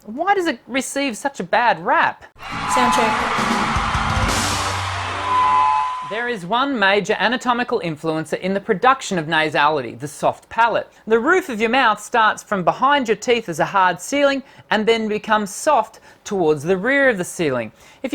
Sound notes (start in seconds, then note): 4.7 microphone feedback